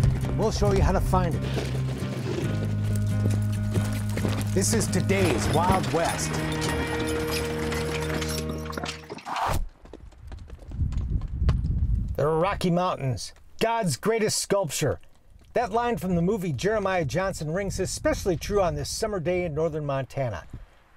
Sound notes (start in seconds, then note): 6.7 clattering hooves